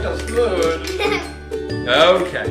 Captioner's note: laughing